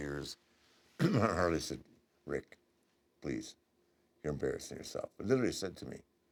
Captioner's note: cough